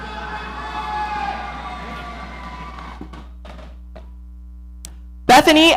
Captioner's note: audience cheering